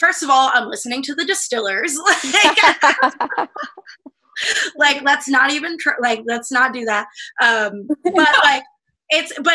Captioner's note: laughter